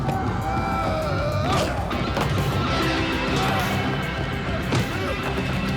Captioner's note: dramatic music; grunts and groans